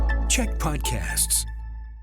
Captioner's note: announcer voice